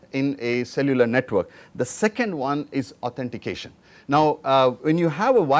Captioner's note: air conditioning